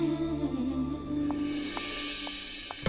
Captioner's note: Cherry's footsteps